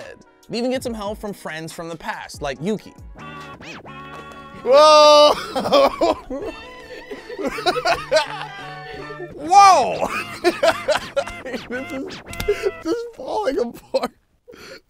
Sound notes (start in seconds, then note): 3.3 slow music; 6.5 laughing